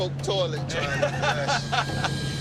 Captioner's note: laughs